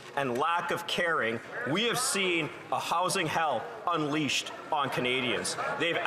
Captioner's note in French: voix de l'interprète